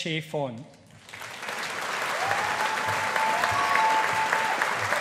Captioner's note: audience applauding